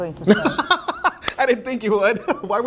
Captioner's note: laughs